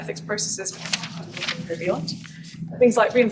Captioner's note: page turns, obscures voice